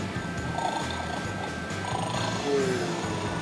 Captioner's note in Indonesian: Menggeram